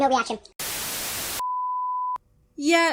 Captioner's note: static